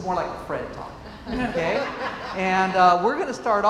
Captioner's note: laughs